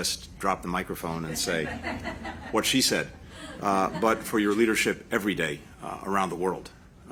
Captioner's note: laughter